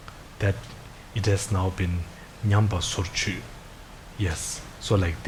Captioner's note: speaking in foreign language